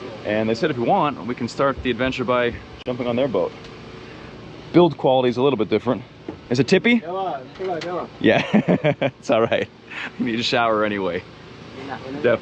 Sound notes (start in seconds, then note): 7.5 people speaking in foreign language; 8.3 chuckles